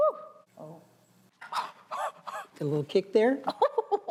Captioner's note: gasping; laughs